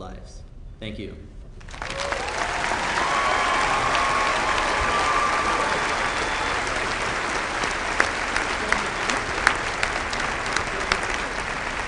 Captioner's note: applause